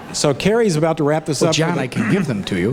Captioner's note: audience laughs